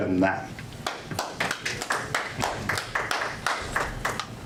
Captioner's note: audience applause